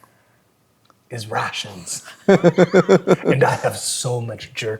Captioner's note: players laughing